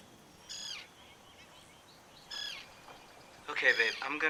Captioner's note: crane caws